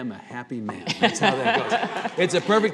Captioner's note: laughing